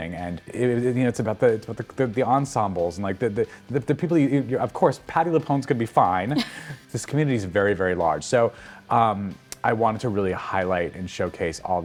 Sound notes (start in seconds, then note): 6.3 laughing amusingly